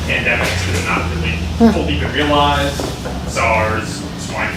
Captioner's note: faintly speaking